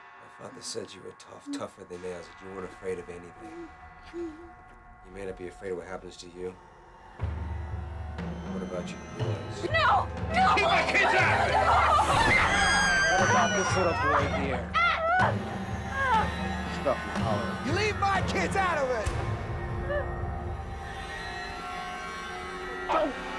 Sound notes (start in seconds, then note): 11.0 screaming; 15.0 whimpering